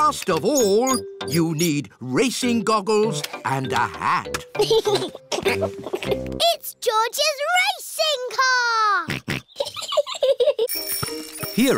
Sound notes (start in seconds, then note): 4.5 chuckles; 9.1 snorts; 9.5 chuckles